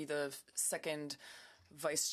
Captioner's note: speaking French